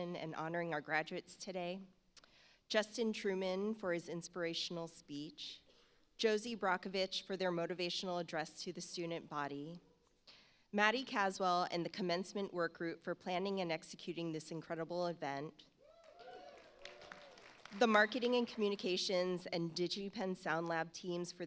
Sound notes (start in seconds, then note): 16.0 audience applauds